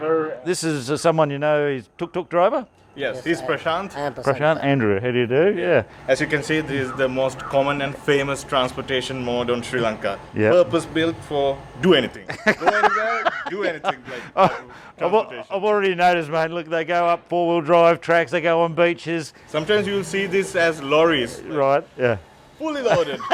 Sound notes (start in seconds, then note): 12.2 laughter